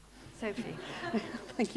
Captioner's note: laughter